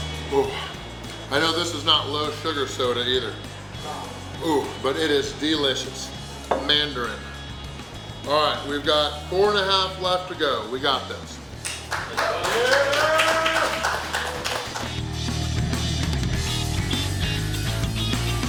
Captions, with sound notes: Oh I know this is not low sugar soda either, oh but it is delicious-- mandarin!! Alright, we've got 4 and a half left to go, we got this!! [Cheering & Clapping]